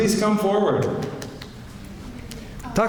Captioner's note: very soft clapping